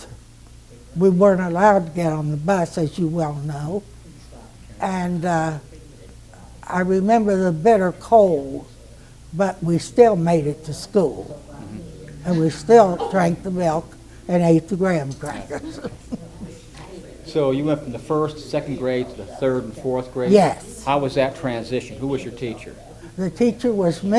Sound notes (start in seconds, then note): 15.0 laughs